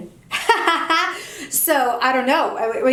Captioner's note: laughs